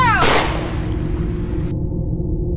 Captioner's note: gunshot